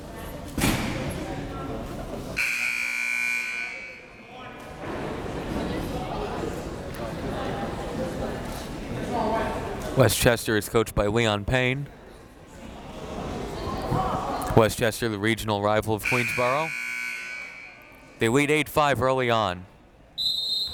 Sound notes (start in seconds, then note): 1.0 crowd members talking; 2.4 buzzer ringing; 4.0 crowd members talking; 16.0 buzzer ringing; 20.2 whistle tweeting